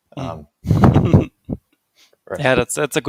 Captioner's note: laughs